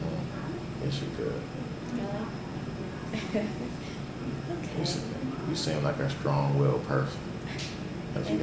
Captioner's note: laughs